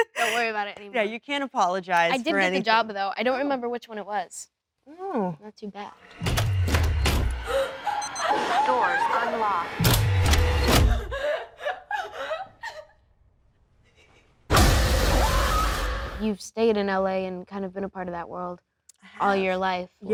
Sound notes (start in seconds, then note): 6.2 Jenna whimpering; 6.2 door locks disengaging; 9.5 robotic Voice; 14.8 Jenna screaming